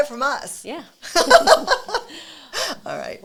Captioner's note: both laugh